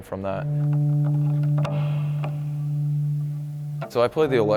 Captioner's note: vibration resonates